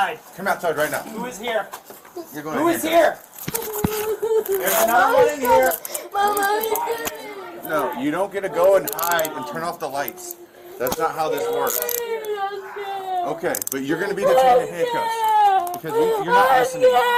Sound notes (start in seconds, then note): 10.2 crying